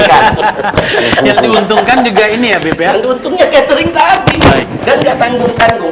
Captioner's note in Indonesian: tertawa